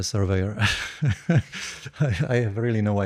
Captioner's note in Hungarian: nevetés